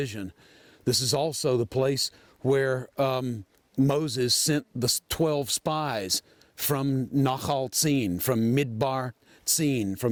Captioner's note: Hebrew